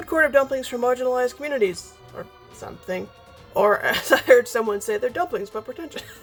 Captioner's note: laughing; laughs